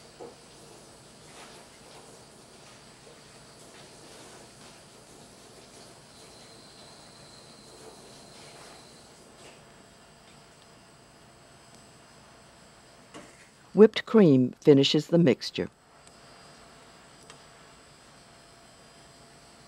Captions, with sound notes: - [Voiceover] Whipped cream finishes the mixture.